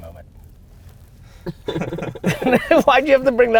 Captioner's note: group laughter